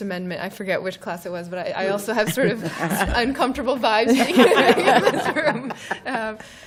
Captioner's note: laughter